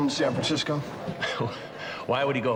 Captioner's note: chuckling